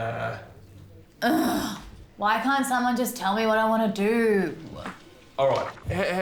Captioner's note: groans